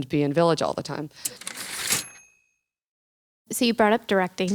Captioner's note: typewriter ding